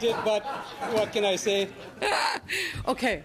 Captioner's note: laughter